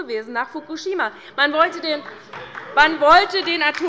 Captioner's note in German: Beifall bei Abgeordneten der LINKEN und der SPD